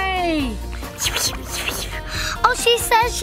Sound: Adley whispering

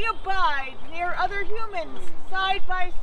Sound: none

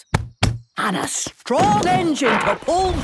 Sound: thumping

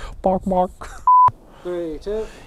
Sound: beep

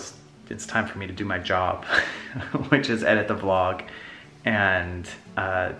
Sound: laughs

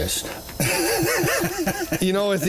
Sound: laugh

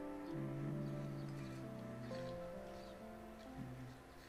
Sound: Mark humming car sounds

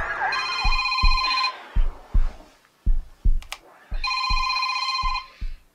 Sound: sirens blaring; phone ringing; heartbeat thumping

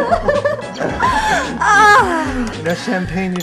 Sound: both giggling

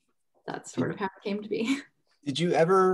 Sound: chuckles

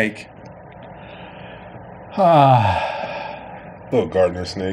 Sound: sighs

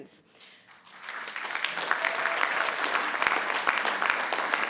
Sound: audience clapping

